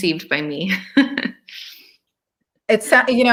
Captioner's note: laughing